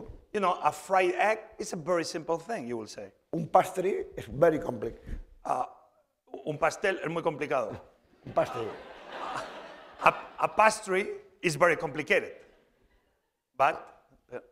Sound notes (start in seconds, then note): 0.0 speaking spanish; 7.1 speaking spanish; 8.2 laughter; 8.8 spanish